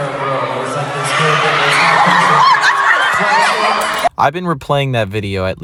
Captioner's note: fans screaming